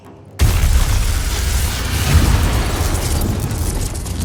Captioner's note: explosion blasting